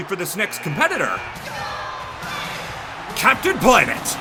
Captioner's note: buzzer buzzes